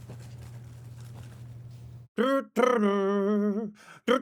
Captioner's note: humming